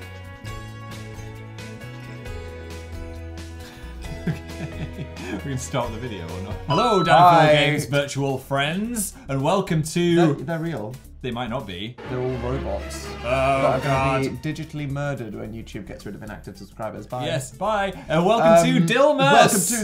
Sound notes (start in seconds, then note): 3.7 laughing; 11.9 dramatic music